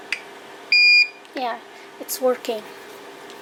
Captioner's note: beep